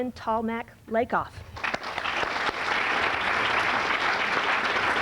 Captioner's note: applause